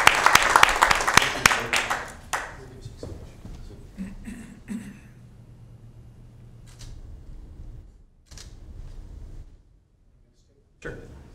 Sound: applause

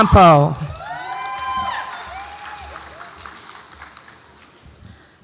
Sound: audience applauds and cheers

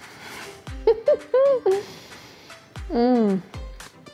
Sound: laughs

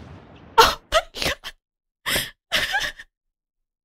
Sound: more crying

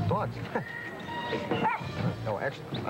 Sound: dogs bark as they jump

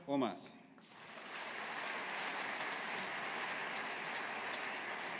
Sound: audience applauding

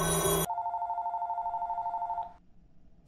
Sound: phone Ringing

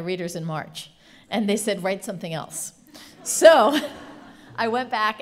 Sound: laughing

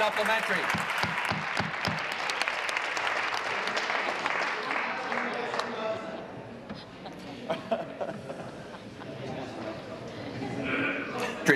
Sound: applause

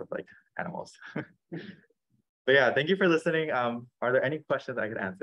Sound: laughs

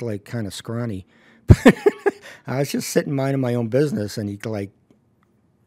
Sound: laughs

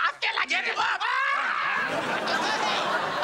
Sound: screaming

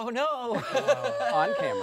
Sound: laughing

